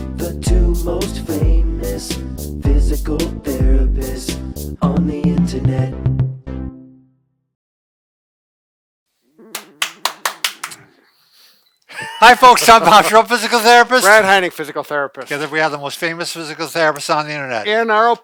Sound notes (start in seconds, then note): 9.5 clapping; 11.8 laughing